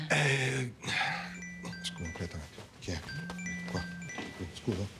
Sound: cell phone rings

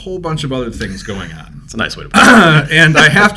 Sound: laughs

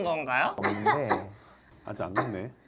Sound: forcing beomself to cough

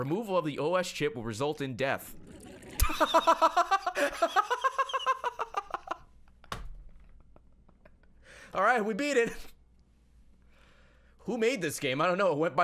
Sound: laughs

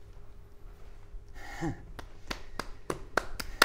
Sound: satisfied chuckle

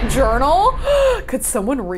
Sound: gasps

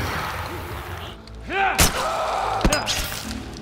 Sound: Clickers screech; Joel grunts viciously; Runner shrieks

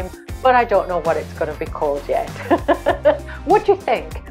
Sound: laughs

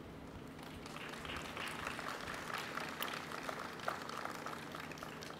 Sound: audience applauding

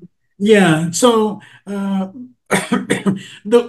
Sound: cough

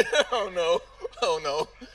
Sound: laughing

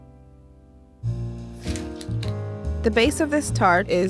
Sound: soft jazzy music continues; paper rustling

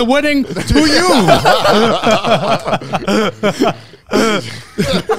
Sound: all laughing

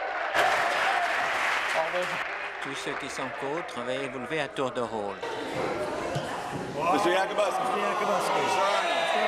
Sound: applause

